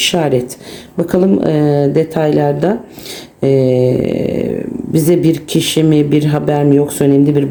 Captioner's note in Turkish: homurdanır